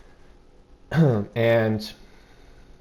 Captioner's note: clears throat